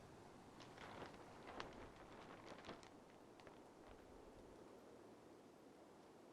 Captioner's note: cordon tape flutters in wind